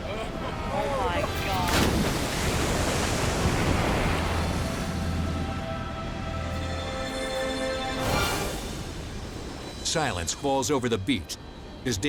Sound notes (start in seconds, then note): 1.2 water splashes; 5.1 suspenseful music